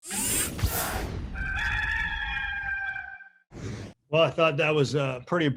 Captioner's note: rooster